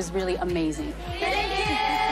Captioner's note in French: laughs